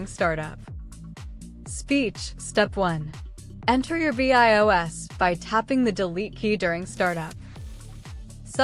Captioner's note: speech